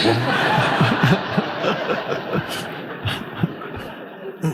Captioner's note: audience laughing